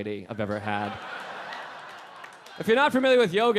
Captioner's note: audience laughing